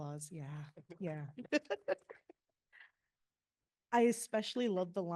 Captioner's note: laughing